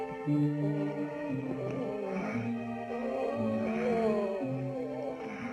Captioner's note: man groaning